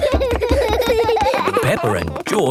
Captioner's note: both giggling